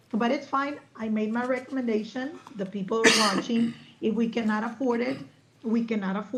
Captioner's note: clears throat